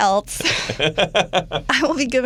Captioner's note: laughs